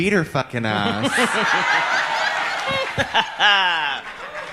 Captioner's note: audience laughs